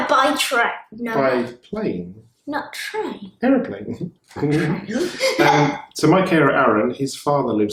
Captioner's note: laughing